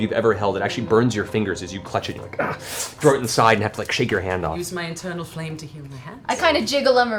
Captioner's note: gasp